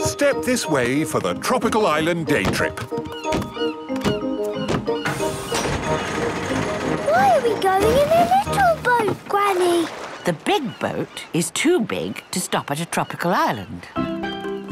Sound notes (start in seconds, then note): 3.1 gulls squawking